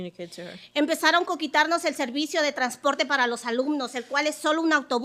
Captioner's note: speaking Spanish